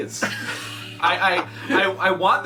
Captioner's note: laughs